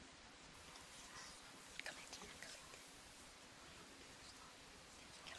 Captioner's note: students whispering